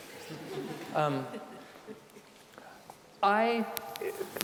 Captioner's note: audience laughing